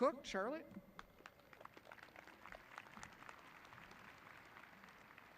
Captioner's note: audience clapping